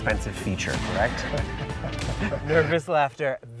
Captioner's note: laughing